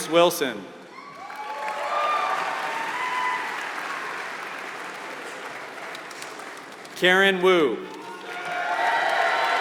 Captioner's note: applause